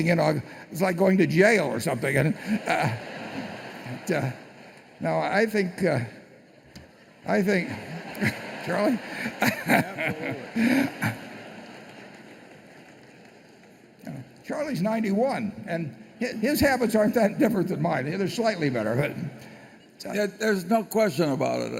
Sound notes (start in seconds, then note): 2.2 laughter; 7.6 laughter